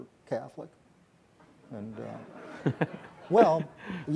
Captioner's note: audience laughs